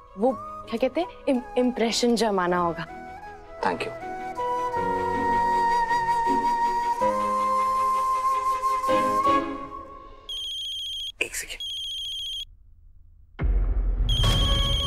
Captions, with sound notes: impression on your boss. Thank you. [romantic music playing] - [phone ringing] - One second.